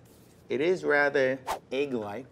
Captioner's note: whooshing